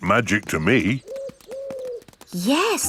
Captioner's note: owl hooting